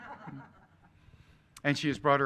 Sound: laughing

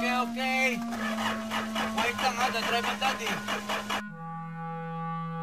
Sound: engine revs

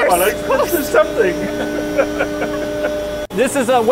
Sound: laughing

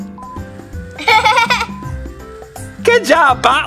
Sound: girl laughs

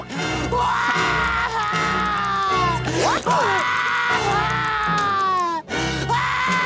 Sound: screaming

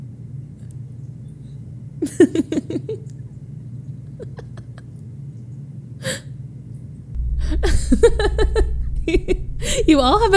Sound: laughs

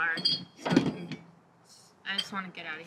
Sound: bottles clang; thump

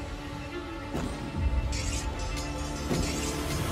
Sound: swords scraping

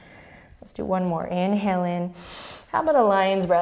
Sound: deep breath

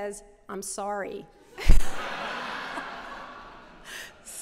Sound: laughter

